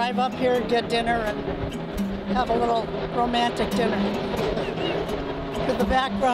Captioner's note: laughs